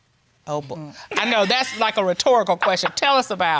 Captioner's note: laughs